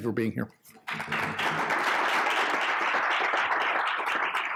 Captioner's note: audience applauding